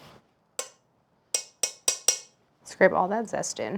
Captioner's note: metal clanking